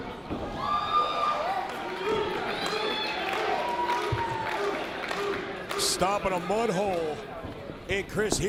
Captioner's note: applause